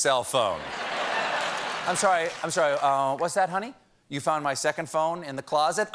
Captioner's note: laughter